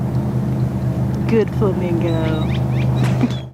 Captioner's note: laughing